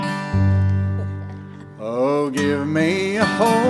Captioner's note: gentle guitar music; chuckling